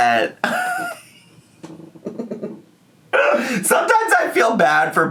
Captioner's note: chuckling